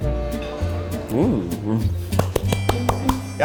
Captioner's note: bright, whimsical music; claps